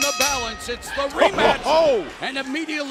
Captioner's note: bell ringing